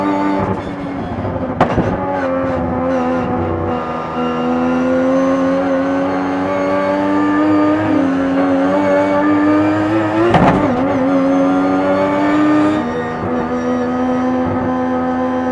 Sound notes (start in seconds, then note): 10.1 car bumps object